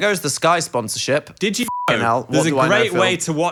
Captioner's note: beeps